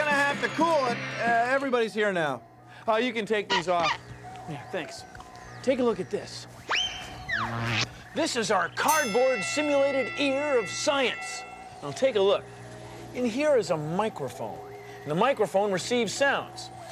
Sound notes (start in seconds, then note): 2.2 pounding, clanging, whirring stop